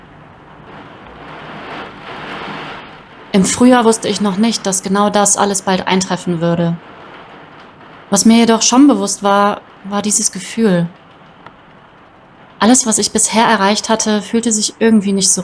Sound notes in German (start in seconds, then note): 3.0 Regengeräusche